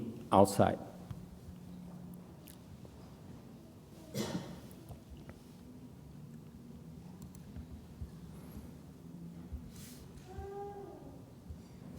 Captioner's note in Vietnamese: typing